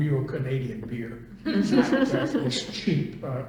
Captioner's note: all laugh